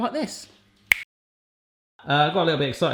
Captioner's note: finger snapping